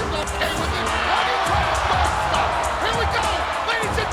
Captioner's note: crowd cheering drowns out commentator